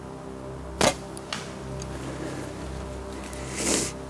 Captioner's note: arrow whooshes